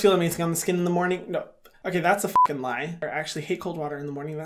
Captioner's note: beep